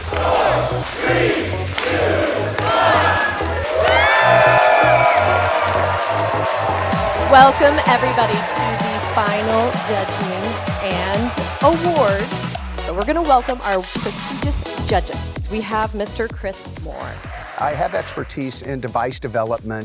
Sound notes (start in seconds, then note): 3.4 everyone cheering